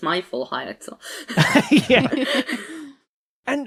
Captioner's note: group chuckling